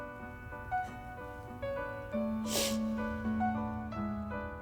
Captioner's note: piano music; Anne sniffling